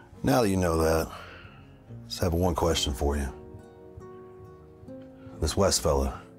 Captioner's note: none